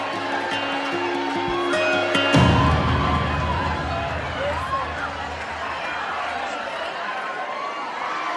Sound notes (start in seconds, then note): 3.0 crowd cheering